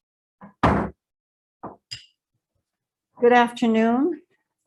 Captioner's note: gavel bangs